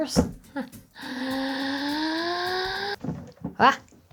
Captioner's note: sighing